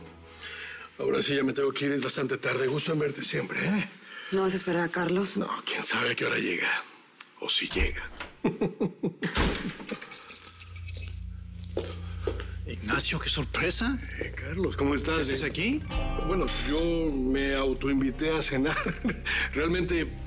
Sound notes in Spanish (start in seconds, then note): 9.3 Portazo; 9.3 Ruido al abrir la puerta; 9.8 Ruido con las llaves